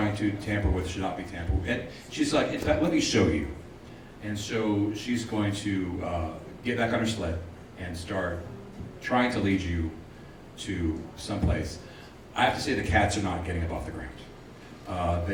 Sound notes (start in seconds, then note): none